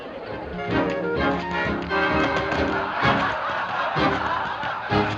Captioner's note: laughter